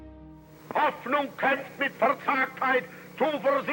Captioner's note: speaking German